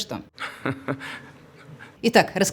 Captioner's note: evil laugh